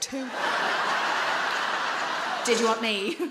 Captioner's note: audience laughing